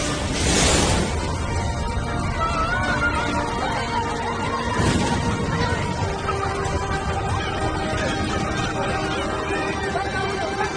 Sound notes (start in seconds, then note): 1.1 explosions booming; 2.2 children and yelling